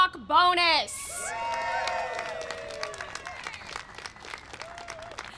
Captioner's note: applause and cheering